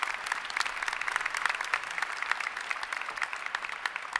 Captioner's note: applause